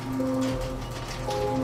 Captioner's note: squeaking metal door shutting